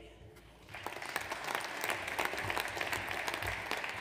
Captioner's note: audience applauds